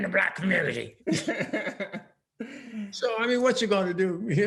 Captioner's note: laughing